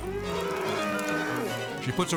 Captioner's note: cattle bellowing